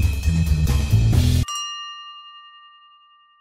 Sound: ding ding

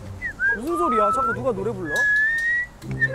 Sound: begins filming / Whistling

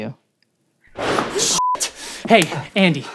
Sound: gunshots

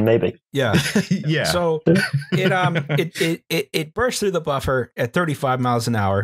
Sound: laughs

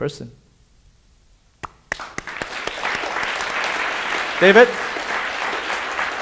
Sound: audience applauding

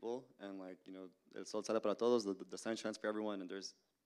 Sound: Spanish language

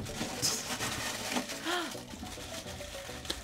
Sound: React gasps

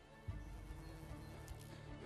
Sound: buzzing

